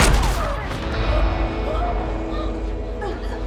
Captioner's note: Rowena gasping